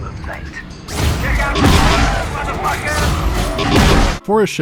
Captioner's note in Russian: стрельба и крики